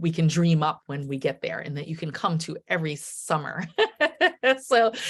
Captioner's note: laughing